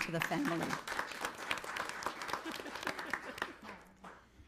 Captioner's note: audience clapping